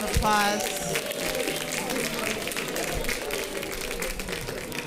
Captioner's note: audience applauding